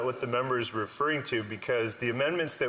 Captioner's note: speaking French